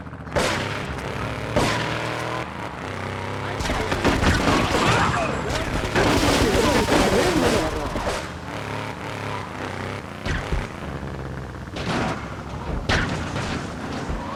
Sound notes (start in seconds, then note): 4.1 gun firing